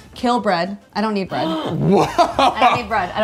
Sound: gasps

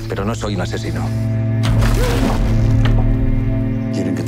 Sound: wood thumps

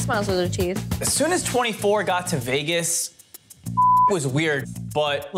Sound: beep

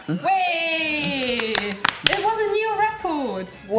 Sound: ladies applauding

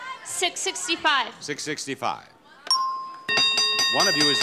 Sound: bell dings

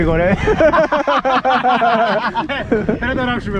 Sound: laughs

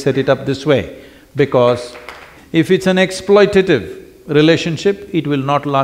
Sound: applause

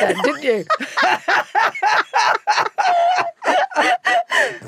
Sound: both laughing

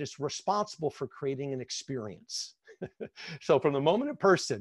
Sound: laughs

